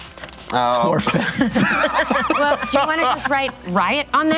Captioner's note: laughing